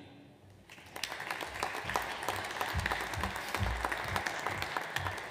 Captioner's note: audience applauds